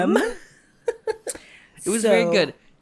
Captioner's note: giggles